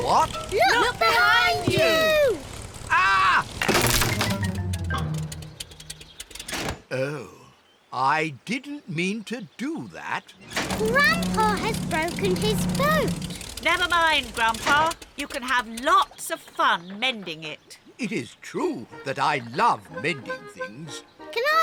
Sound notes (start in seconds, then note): 4.1 crunching